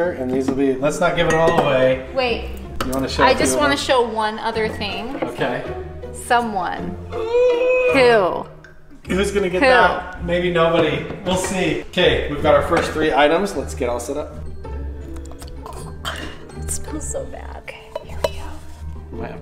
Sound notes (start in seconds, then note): 7.2 groaning; 15.2 gagging